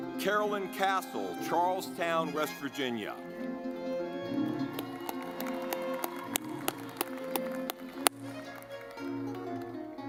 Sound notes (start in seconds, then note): 4.0 lively music; 4.4 audience clapping